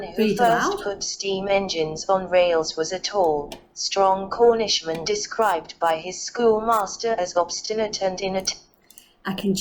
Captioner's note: PC voice reading out document